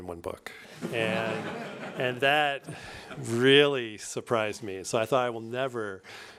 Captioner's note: laughter